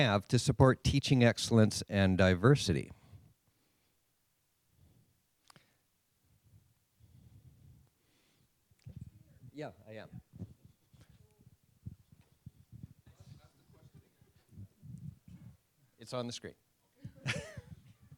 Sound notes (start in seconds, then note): 13.6 voiceover